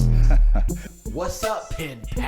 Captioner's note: laughter